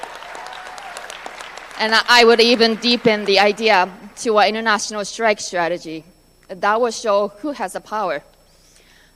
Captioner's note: applause